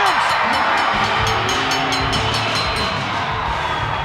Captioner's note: bell dinging